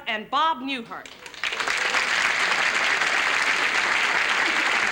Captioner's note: applause